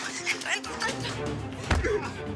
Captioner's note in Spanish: Portazo; Patadas; Gemidos de Manuel